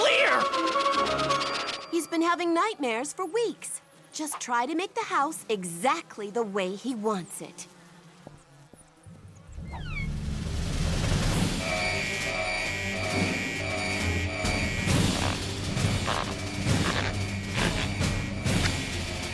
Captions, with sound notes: AH...I CAN SEE MY REFLECTION, BUT IT'S NOT... CRYSTAL CLEAR! HE'S BEEN HAVING NIGHTMARES FOR WEEKS! JUST TRY TO MAKE THE HOUSE EXACTLY THE WAY HE WANTS IT. [FLIES BUZZING] [ALARM BLASTS]